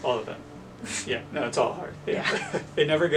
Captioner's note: they both laugh